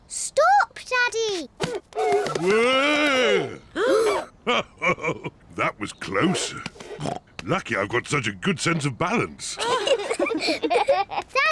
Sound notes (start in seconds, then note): 3.7 all gasp; 4.5 chuckles; 6.7 snorts; 9.5 all giggle